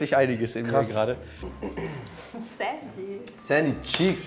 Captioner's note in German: Räuspern